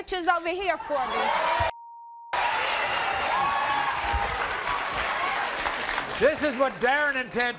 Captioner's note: crowd cheering